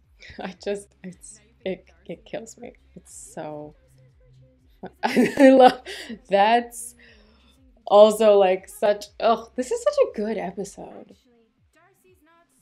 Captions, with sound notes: I just, it's, it kills me. It's so... [laughter] I love, that's, also such — ugh! This is such a good episode.